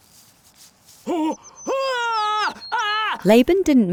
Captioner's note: Jacob screams